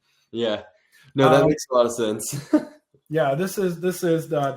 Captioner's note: laughs